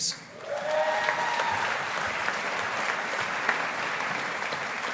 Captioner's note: audience applauding